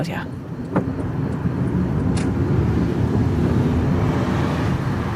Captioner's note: car engine revving